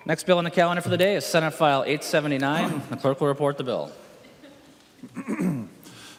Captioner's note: gavel